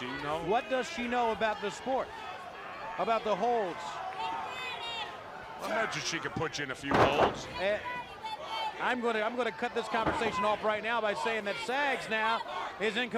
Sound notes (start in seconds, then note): 9.5 crowd chatter